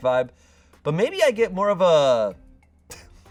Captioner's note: laughs